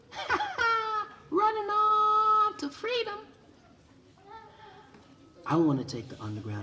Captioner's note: laughs